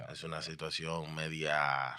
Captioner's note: speaking In Foreign Language